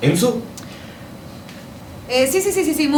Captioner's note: enzo inhales